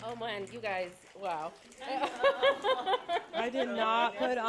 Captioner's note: laughter